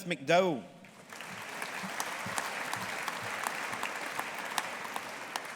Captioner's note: audience applauding